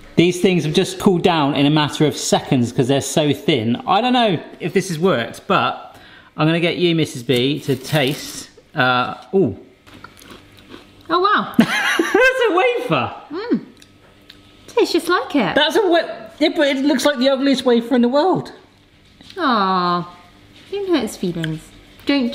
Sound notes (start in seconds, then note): 9.8 crunching; 12.7 laughs